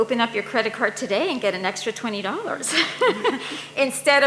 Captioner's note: audience member #3 laughs